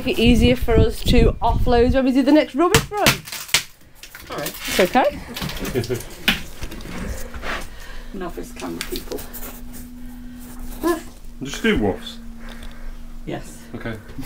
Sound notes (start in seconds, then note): 8.2 laughing